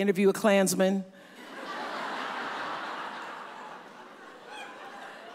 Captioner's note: audience laughs